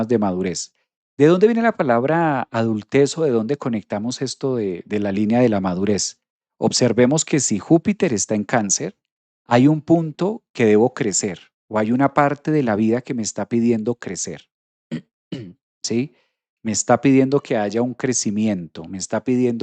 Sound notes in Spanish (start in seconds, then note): 15.3 carraspeo